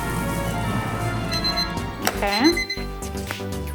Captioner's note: clock beeping